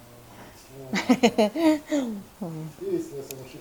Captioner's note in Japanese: 笑い声